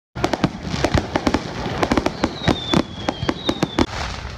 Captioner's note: fireworks cracking